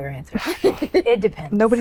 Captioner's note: giggles